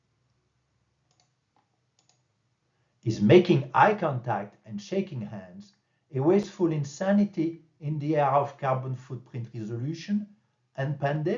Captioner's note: click